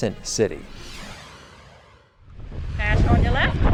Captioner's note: air whooshing